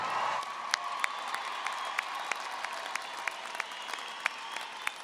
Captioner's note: everyone applauding